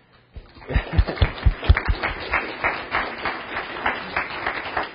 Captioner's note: audience applauding